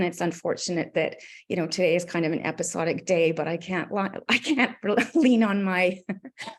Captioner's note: chuckles